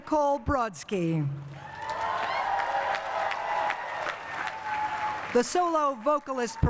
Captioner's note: cheering and applause